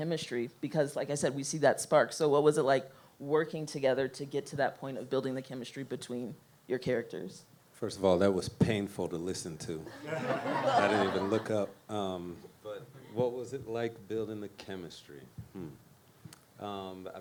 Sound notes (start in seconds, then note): 9.9 audience laughs